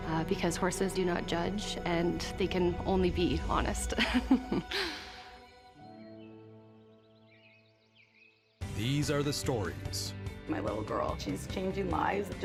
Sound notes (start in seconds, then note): 3.9 chuckles; 5.7 birds continue chirping